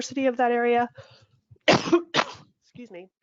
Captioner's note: coughs